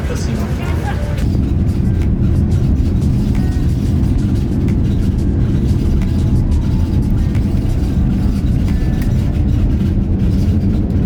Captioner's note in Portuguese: som de decolagem